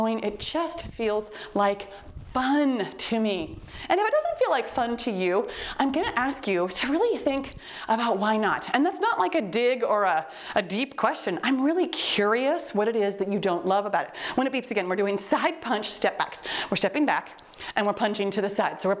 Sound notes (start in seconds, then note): 7.3 timer beeps; 17.4 timer beeps